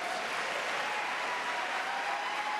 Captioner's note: applause